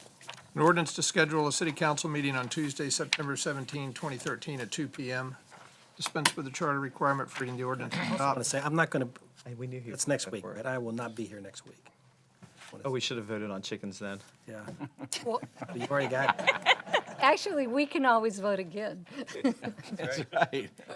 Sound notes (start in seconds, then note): 14.7 laughter; 20.7 laughter